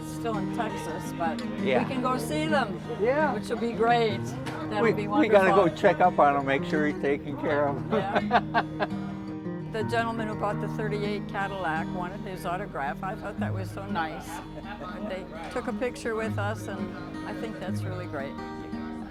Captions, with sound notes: It's still in Texas but we can go see them which will be great. - We gotta go check up on them, make sure he's taking care of them. (laughs) - The gentleman who bought the 38 Cadillac wanted his autograph, I thought that was so nice. They took a picture with us and I think that's really great.